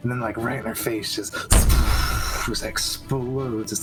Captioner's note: shhhppwwwshshhhhh